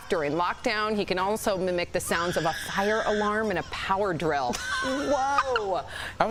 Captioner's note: laughter